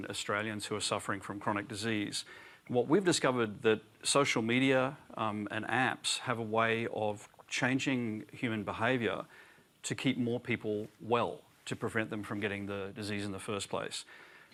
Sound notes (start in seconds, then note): none